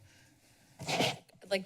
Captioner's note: distorted mic